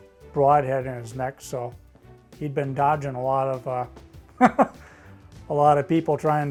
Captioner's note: laughs